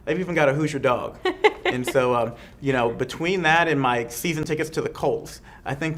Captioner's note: laughs